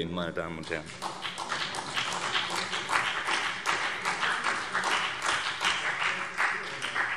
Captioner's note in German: Beifall CDU und BÜNDNIS 90/DIE GRÜNEN